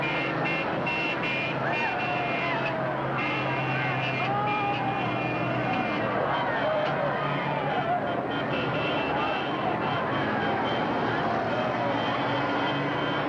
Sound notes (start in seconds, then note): 0.6 cheering and yelling